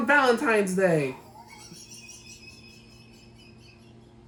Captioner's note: what a kettle laugh